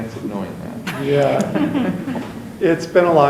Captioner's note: chuckles